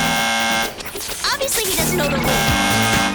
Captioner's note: buzz